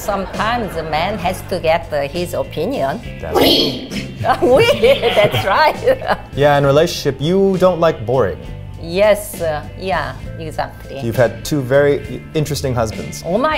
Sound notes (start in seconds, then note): 0.0 audience laughs; 3.5 speaks in foreign language